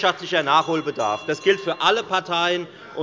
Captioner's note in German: Unruhe - Glockenzeichen des Präsidenten